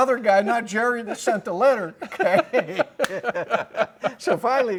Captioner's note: both laughing